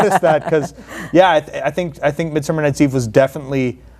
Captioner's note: laugh